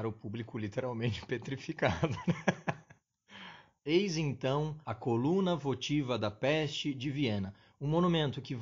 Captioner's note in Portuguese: risos